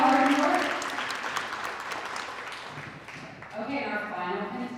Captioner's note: audience applauding